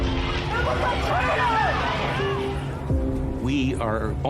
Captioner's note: crowd yelling